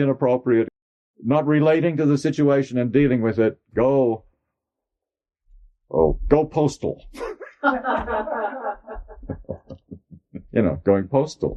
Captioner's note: laughter